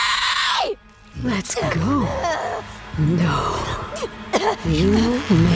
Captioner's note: grunting; evil distorted voice